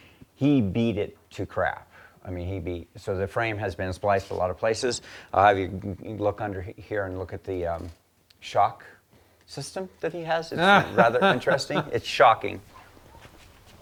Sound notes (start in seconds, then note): 10.5 laughing